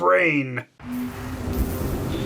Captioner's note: lightning noises